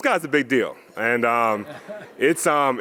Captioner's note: audience laughs